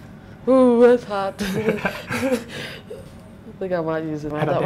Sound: giggling

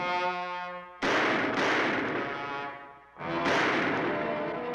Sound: guns firing

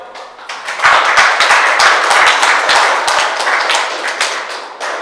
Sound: audience applauds

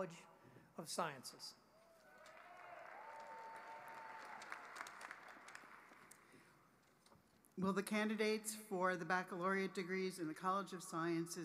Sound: applause

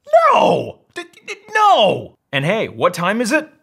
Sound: stutters

